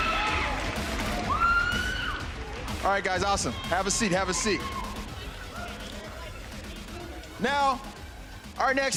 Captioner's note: applause